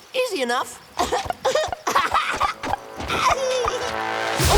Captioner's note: laughing